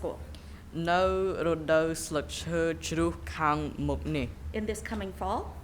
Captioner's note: speaking in a foreign language